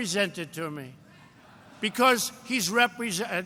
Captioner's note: laughter